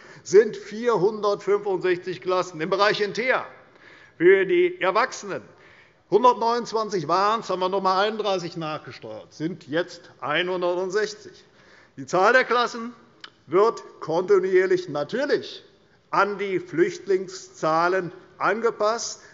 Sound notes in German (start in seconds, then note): none